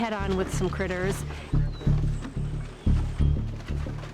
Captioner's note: mouse squeaking